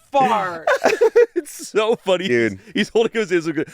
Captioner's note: laughs